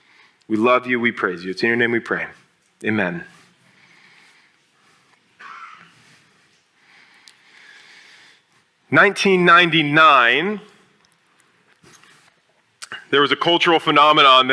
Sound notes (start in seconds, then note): 5.6 silence